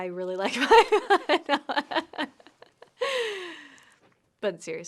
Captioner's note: laughs